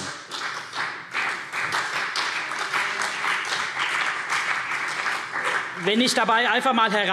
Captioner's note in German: Beifall CDU und BÜNDNIS 90/DIE GRÜNEN